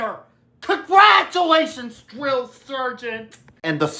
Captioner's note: sarcastically